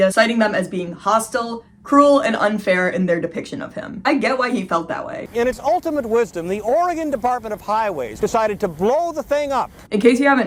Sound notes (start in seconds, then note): none